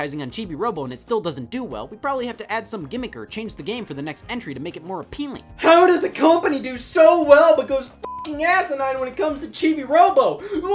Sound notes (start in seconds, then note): 8.0 beeps